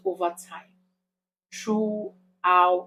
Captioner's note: paause